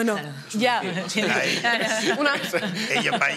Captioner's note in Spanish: algunos ríen